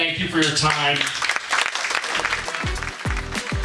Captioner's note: audience clapping; upbeat music